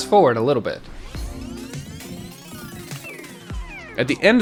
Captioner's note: comical machine whirring